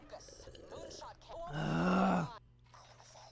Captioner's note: loud slurping; frustrated vocalisations